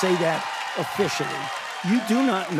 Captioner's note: cheers and applause